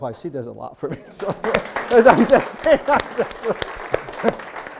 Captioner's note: group clapping